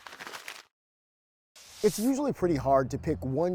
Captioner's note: paper crumpling; paint spraying